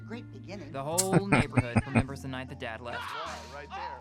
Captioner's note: chuckling